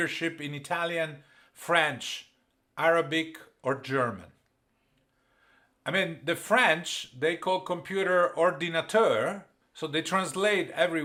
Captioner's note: french 00:12:26